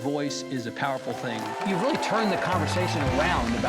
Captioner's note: audience cheers